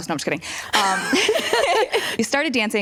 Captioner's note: laughter